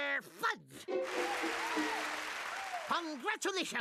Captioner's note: crowd cheering